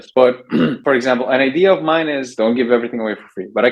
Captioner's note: clears throat